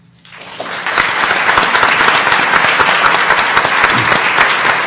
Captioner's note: audience applauding